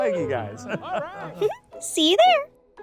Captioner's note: giggling